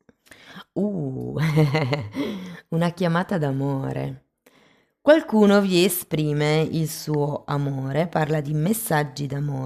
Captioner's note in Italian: risate